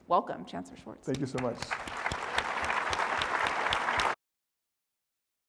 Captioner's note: audience applauding